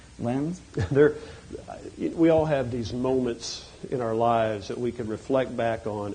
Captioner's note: chuckles